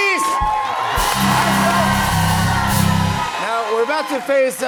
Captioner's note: cheers and applause